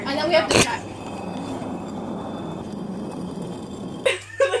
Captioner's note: concrete on concrete sound effect